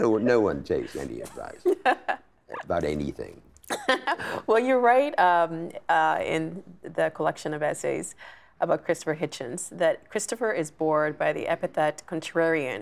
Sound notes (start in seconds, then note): 1.6 laughing